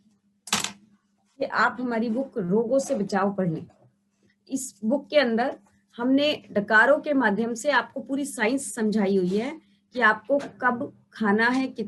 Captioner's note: Hindi